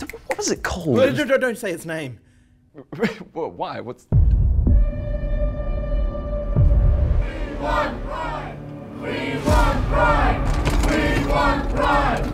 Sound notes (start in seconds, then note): 2.8 chuckles; 4.1 dramatic music plays; 6.4 rumbling; 7.1 chants; 10.4 doorhandle rattles